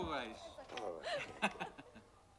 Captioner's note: laughs